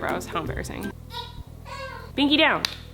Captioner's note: baby cries